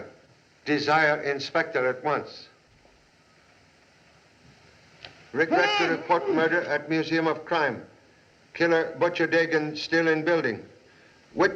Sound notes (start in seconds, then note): 5.4 muffled Cries